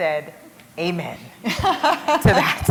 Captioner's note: laughter